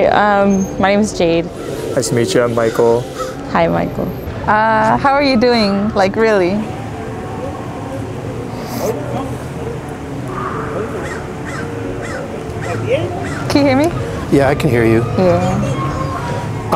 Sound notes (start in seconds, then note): 7.0 soft music; 10.5 bird chips